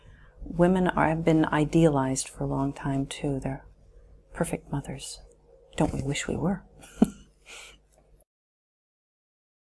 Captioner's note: śmiech